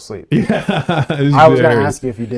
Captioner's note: both laughing